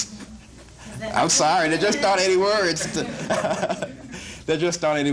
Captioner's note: audience laughs; laughs